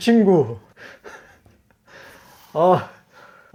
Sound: laughing

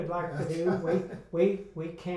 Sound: laughs

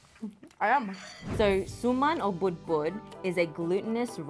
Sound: speaks Tagalog

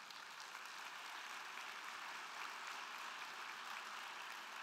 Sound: crowd clapping

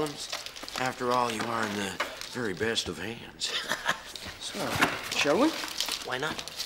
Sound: chuckles

